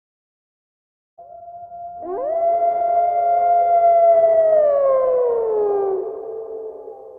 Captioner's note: howling